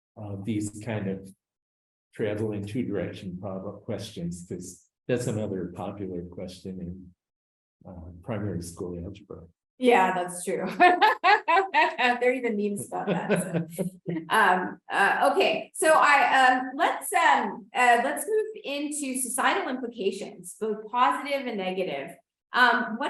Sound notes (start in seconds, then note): 10.5 laughs